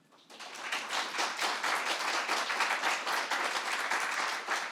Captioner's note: audience clapping